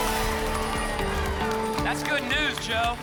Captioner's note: applause and cheering